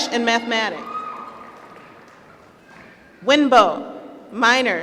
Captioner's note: applause